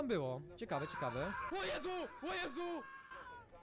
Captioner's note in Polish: Dźwięk dotacji, krzyczy